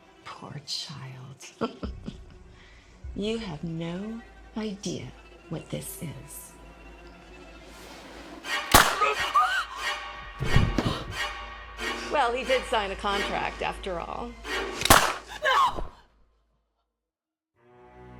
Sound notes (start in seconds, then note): 2.0 laughs; 8.5 Eleanor gasps; 8.7 gunshot pops; 10.5 intense music; 14.8 gunshot pops